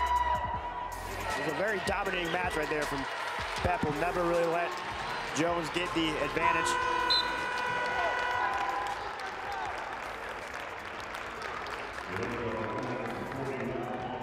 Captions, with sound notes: It was a very dominating match right there from Pepple, never really let Jones get the advantage. (buzzer sounds) (applause)